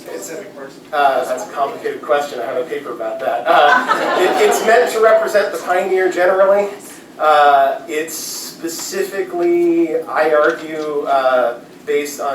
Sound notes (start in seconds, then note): 3.5 laughter